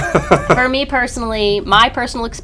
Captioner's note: laughter